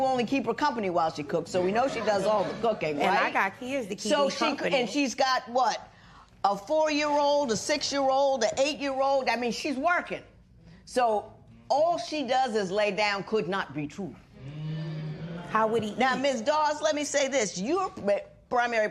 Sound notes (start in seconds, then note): 14.5 spectators murmur